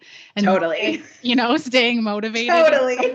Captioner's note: both giggling